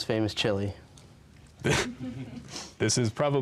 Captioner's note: laughs